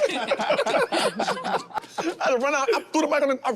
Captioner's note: group laughing